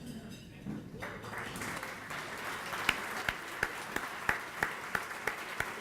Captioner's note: audience applauding